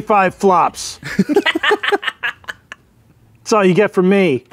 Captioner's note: laughing